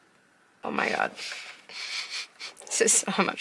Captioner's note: laughs